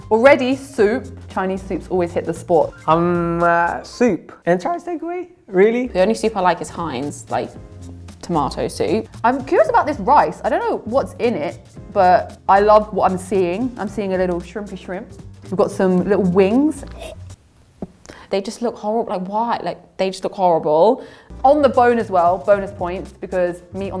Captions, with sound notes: Already soup, Chinese soup always hits the spot. - Soup, is it Chinese takeaway? - Really? - The only soup I like is Heinz, like, tomato soup. - I'm curious about this rice. I don't know what's in it, but I love what I'm seeing. I'm seeing a little shrimpy shrimp. We've got some little wings. - (gags) They just look horrible, like what? Like, they just look horrible. - On the bone as well, bonus points, because meat